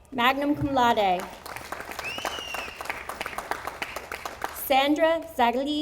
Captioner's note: audience applauding